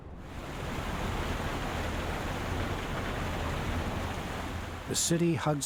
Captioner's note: water rushing